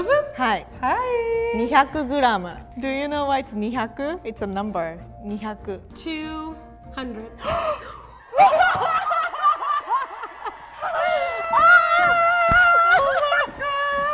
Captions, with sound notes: - Do you know what's (speaks in foreign language) it's a number. - 2 hundred - Huh! (both laugh and cheer) Oh my god!